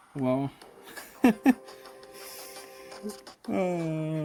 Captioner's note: chuckling, then inhaling